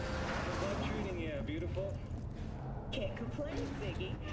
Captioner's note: speaking in foreign language